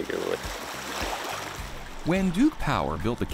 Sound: water splashes

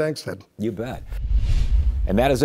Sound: logo whooshing

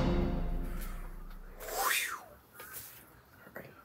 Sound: whoosh

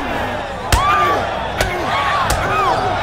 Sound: screaming

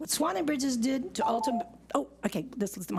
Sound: beeps

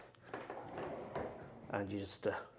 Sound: door scraping

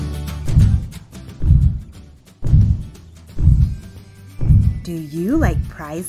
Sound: dinosaur stomping sounds

